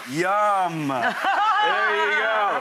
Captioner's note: hearty laughs